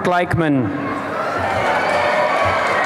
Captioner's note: applause and cheering